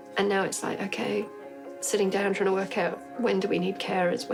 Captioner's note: none